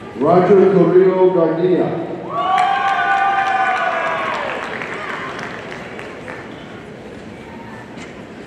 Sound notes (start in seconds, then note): 2.4 audience cheering and applauding